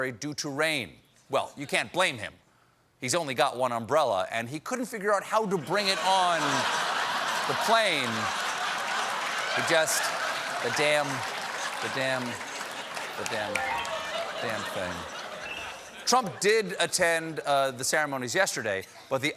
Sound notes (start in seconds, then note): 9.0 laughter; 9.0 piano riff